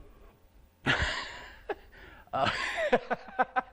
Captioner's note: laughter